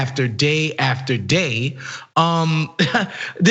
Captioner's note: laugh